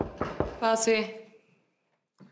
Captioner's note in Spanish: Toques en la puerta